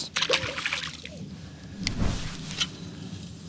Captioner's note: water splash